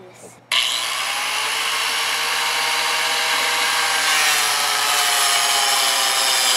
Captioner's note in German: Sägen Brummen